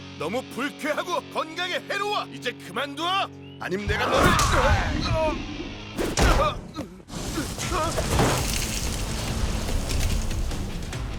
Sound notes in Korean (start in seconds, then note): 4.4 괴성과 함께 쿵 치는 소리; 6.3 랄프 신음